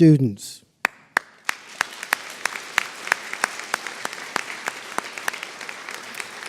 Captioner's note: applause